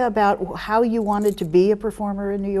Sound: none

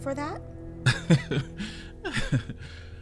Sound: laughs

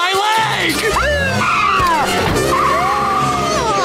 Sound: siren blaring; laughing

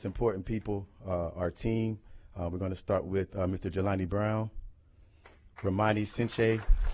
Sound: applause

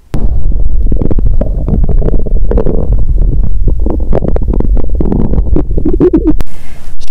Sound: pushing on the mic

